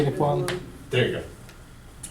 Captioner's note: voiceover